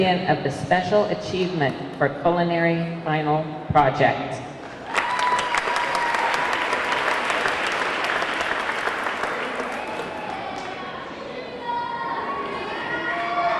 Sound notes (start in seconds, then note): 4.8 audience clapping; 4.8 audience cheering; 10.3 audience clamoring